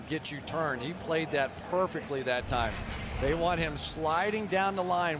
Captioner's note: crowd cheering